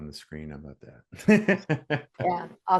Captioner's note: laughs